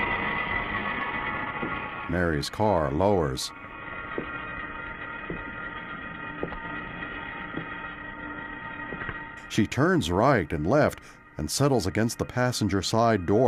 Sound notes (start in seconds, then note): 8.8 footsteps approaching